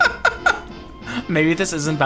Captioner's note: laughs